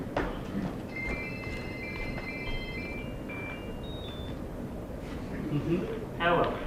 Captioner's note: ringtone of " " plays